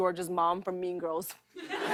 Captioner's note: laughter